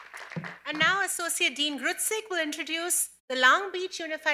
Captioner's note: cheers and applause